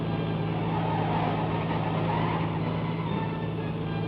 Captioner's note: tires screeching